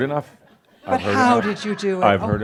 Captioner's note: more chuckles